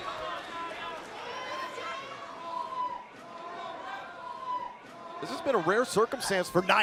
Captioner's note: crowd cheering